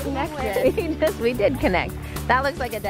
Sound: laughs

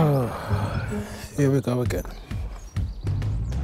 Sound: sighing

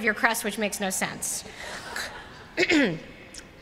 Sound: laughter

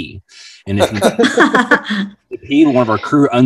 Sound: laughs

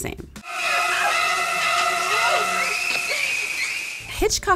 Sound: woman screaming

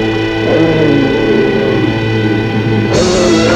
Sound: growling increases

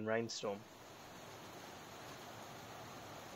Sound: sound of heavy rain on roof and vegetation

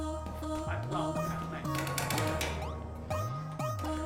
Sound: Malay Language

